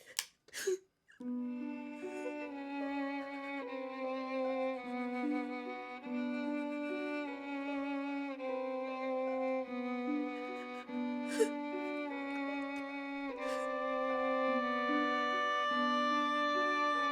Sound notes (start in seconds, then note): 0.2 Carol crying; 0.2 gun clicking; 1.3 somber music; 10.2 Carol crying